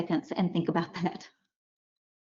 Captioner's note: silence